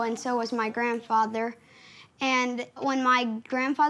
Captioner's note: none